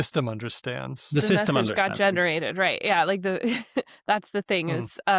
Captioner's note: chuckles